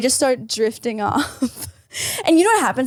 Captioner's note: laughs